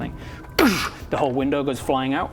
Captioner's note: goosh!